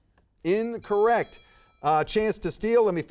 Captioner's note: bell dings